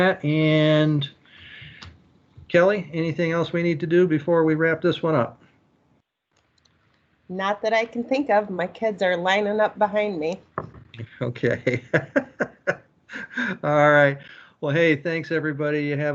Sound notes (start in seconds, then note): 11.0 laughs